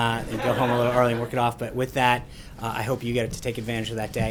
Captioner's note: laughter